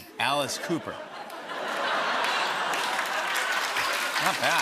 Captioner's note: laughter and applause